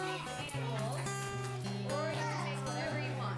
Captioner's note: children shouting